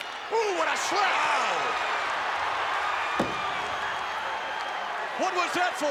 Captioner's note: skin slapping